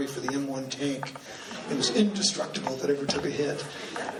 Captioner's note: laughing